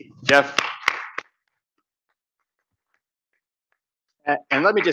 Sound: audience clapping

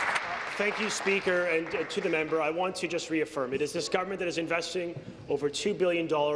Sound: applause

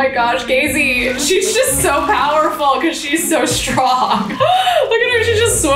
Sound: laughs

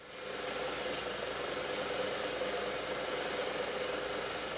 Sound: saw whirring

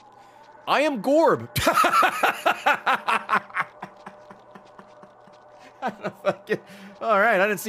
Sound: laughs

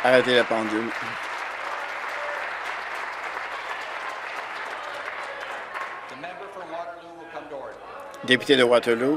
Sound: applause; continued applause

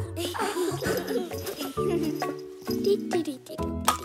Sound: giggles

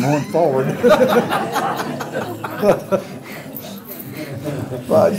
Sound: laughter

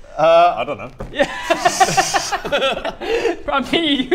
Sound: laughter

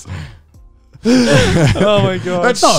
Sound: all laughing

